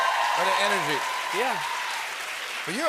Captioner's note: cheers and applause